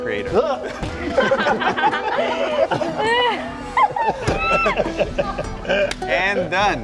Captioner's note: Pedro grunts; all laughing